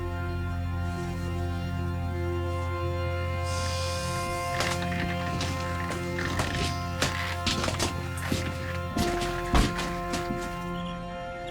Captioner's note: snorts